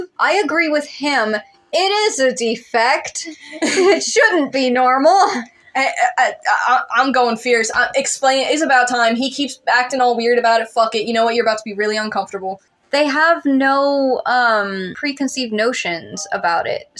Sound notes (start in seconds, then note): 3.2 laughing; 3.3 chuckle; 5.9 stutter